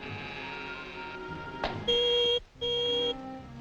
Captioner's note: alarm beeping